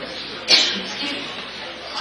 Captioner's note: cough